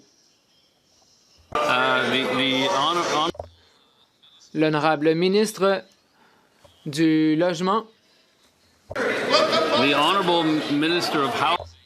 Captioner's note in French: voix de l'interprète